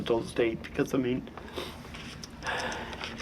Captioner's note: sighs